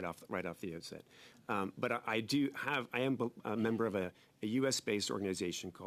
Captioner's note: speaking French